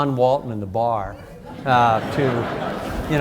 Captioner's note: audience laughs